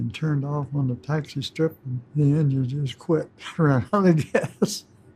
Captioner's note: laughs